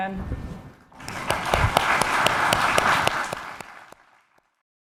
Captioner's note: applause